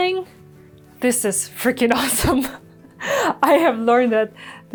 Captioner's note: laughs